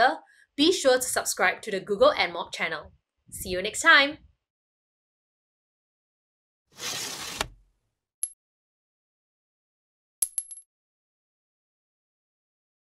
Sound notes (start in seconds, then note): 6.7 sliding sound; 8.3 coin sound